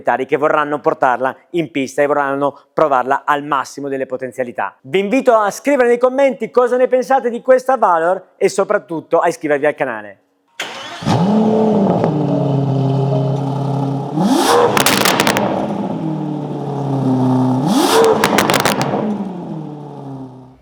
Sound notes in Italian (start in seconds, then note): 14.6 Accensione